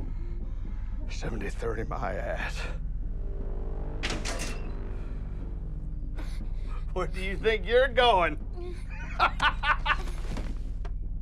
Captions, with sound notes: 70/30, my ass. Where do you think you're going? [laughs]